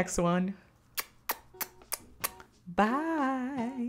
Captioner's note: kisses